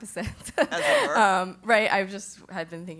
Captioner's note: laugh